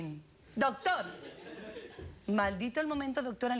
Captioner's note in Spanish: risas